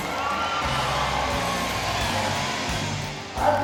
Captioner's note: crowd Cheering